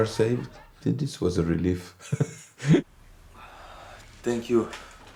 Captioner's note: laughs